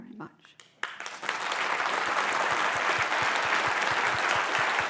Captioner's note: applause